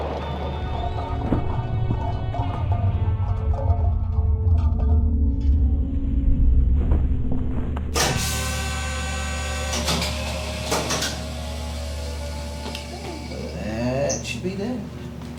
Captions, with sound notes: [bull rumbles] [machine sounds] That should be good.